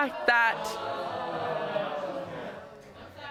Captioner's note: audience exclaiming